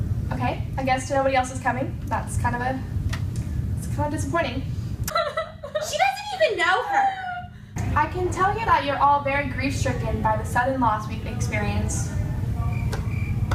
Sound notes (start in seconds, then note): 5.6 weeping loudly